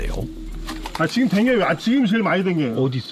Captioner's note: hornets